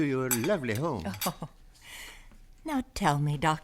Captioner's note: chuckles